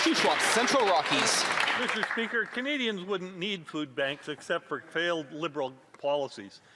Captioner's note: applause